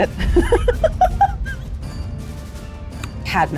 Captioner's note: laughs